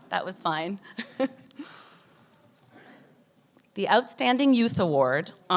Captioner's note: laughs